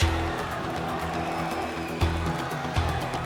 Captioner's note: crowd chatter